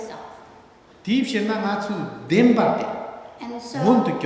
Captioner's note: speaking tibetan